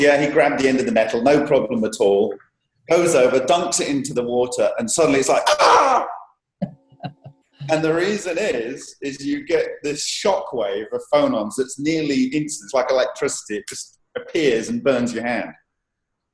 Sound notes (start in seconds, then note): 5.4 screams